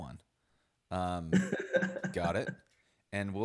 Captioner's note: laughing